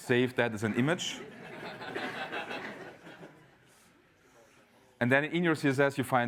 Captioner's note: laugh